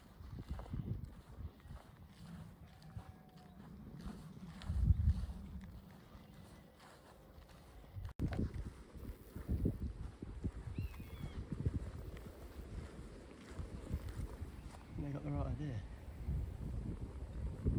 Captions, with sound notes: (buzzard calling) they've got the right idea